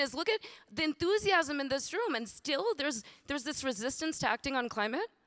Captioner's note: none